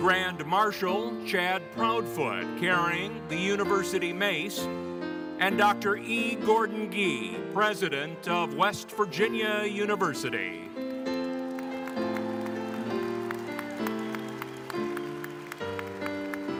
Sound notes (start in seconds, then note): 10.3 audience applauding